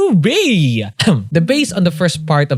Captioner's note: coughs